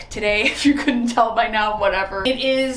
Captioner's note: chuckles